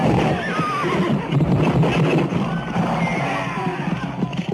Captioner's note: soldiers grunting